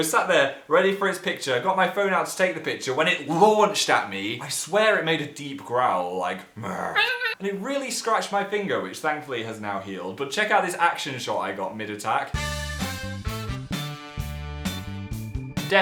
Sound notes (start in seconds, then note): 6.2 growls; 12.3 funky music